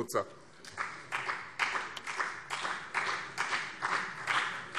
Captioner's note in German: Beifall BÜNDNIS 90/DIE GRÜNEN und vereinzelt CDU